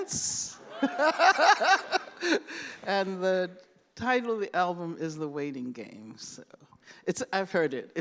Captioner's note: laughs